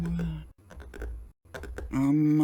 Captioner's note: fingers tapping